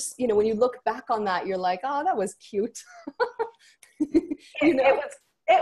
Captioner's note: laughs